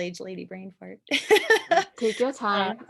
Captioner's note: laughter